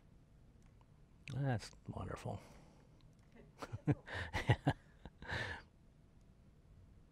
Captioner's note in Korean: 웃음